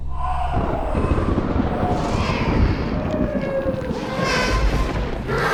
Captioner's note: babies cries, lightning; baby creature roars